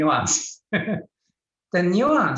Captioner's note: laughs